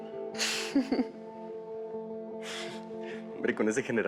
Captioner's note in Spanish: Risas